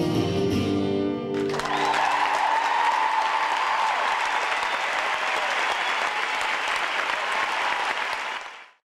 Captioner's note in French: Applaudissements